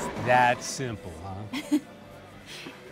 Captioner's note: Keely chuckles